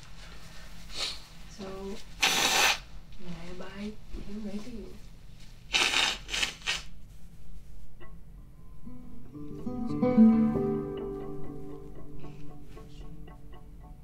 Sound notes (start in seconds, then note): 2.2 blows nose; 10.1 gentle instrumental music